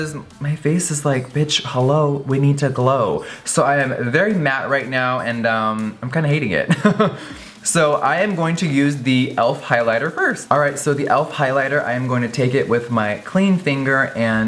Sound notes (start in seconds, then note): 6.6 laughing